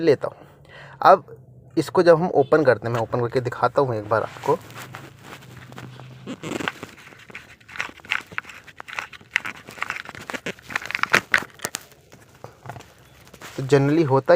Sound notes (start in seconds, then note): 5.5 opening Sound